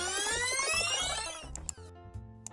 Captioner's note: click